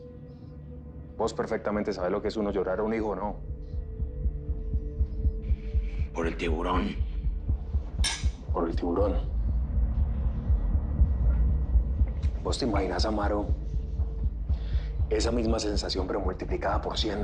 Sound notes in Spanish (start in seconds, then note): 8.0 Chocan las copas